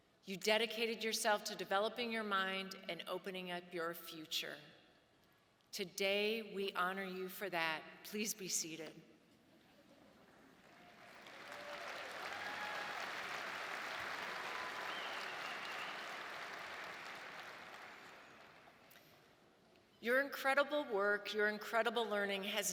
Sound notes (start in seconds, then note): 10.6 audience applauding